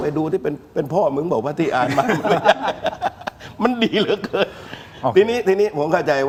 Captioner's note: laughs